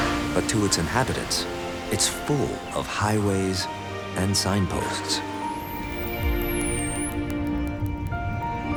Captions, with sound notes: But to its inhabitants, it's full of highways and signposts. [dolphins whistling and clicking]